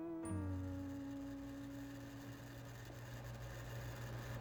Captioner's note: whirring